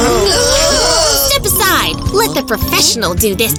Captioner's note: screaming